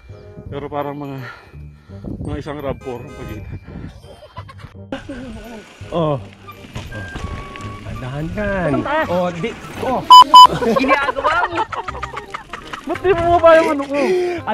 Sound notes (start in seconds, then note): 8.0 crashes